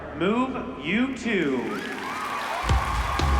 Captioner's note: applause